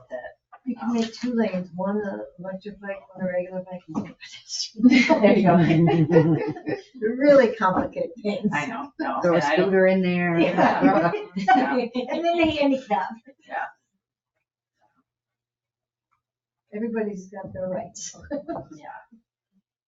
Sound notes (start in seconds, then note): 4.9 people chuckle